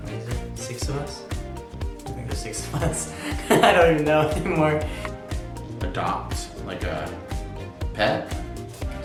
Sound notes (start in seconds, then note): 2.6 laughs